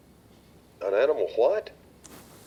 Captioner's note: on phone